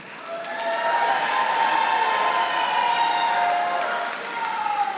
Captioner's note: audience applauding